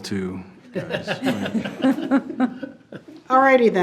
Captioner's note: board chuckling